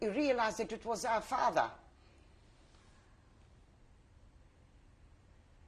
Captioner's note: pauses for 7 seconds